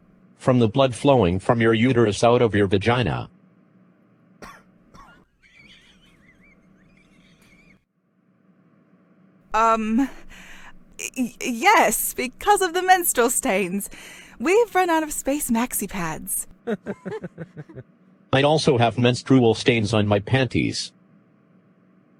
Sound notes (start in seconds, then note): 4.4 embarrassed coughing; 16.6 scattered chuckles